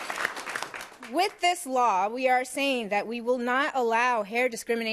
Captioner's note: applause